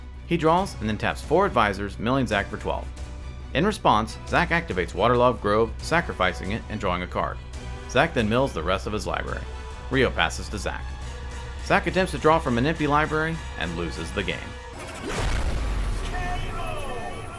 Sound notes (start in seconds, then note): 14.7 logo whooshing